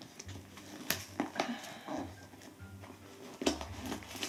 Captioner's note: cardboard tearing